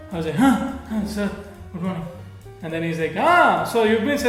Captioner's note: half-asleep